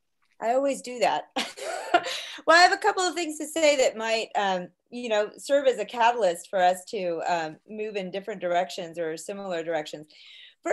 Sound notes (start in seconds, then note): 1.4 chuckling